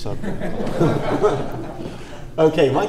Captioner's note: audience laughs